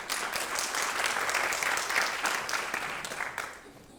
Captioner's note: applause